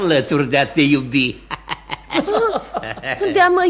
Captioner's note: laughter